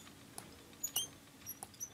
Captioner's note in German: Quietschen